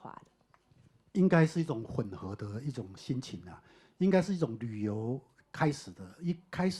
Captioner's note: Mandarin